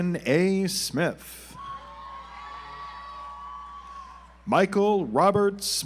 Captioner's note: audience applauds